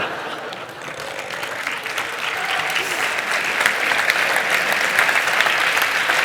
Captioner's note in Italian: Applausi